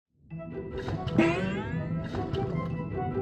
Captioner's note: pumpkin gurgling